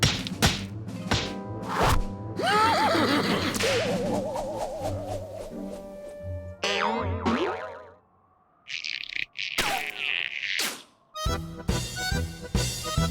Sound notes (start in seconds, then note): 2.4 laughs